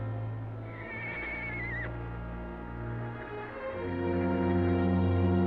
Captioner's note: horse whinnying